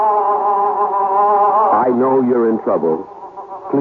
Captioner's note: baby crying